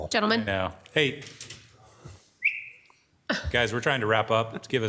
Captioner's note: whistles